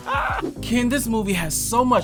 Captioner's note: laughter